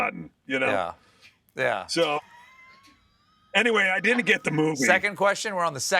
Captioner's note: laughing